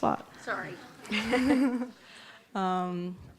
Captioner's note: laughs